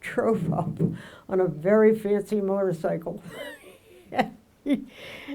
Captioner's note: laughs